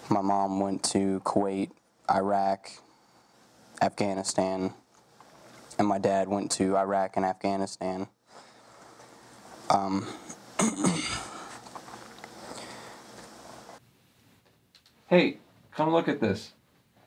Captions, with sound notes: My mom went to Kuwait, Iraq, Afghanistan, and my dad went to Iraq and Afghanistan. (clears throat) - Hey, come look at this.